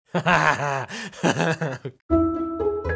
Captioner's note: laughing; optimistic music